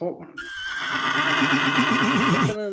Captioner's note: horse neighing